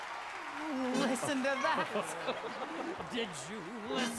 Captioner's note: laughing